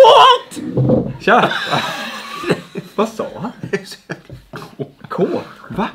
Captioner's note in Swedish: skratt